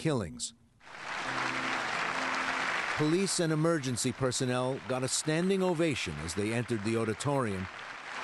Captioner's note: applause